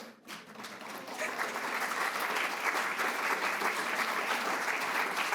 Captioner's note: audience applauds